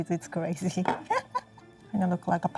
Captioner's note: laughing